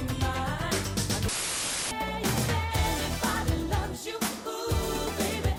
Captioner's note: static hissing